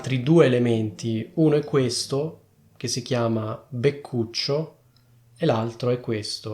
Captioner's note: in Italian